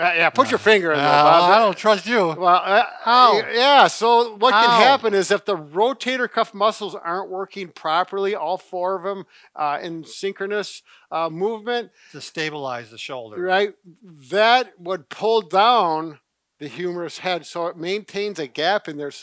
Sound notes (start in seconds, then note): 2.6 growling in pain